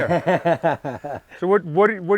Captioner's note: laughing